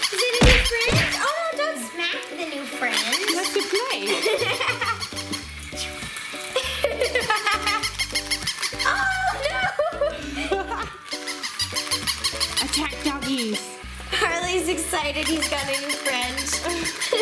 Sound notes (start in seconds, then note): 0.4 punching noises; 4.6 laughs